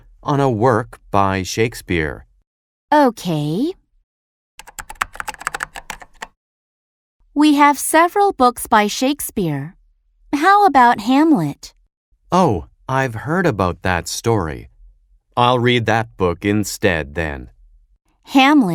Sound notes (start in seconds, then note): 4.6 typing sound